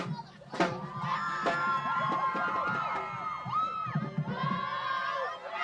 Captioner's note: people chattering; upbeat percussion music; people cheering